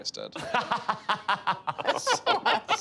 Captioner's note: all laughing